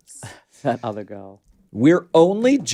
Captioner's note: chuckles